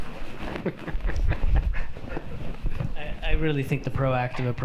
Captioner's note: laughing